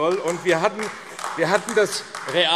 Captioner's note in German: Beifall AfD